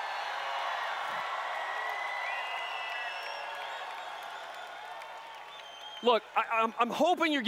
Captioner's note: cheering/Applause